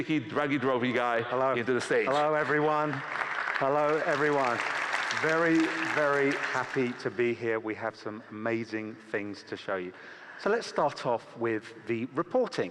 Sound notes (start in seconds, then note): 7.1 applause